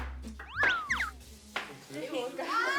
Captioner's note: hesitant